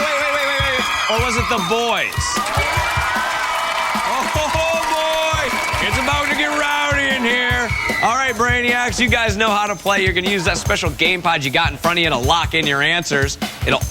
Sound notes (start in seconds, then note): 4.7 boys cheering